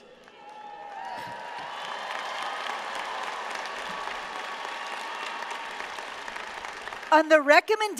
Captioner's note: applause